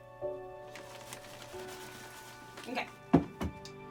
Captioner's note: paper crumpling